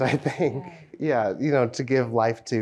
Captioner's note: laughs